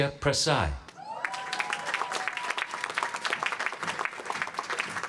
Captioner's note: applause